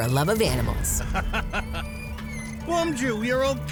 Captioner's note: chuckles